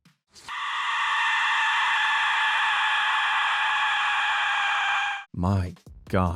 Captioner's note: whistle screaming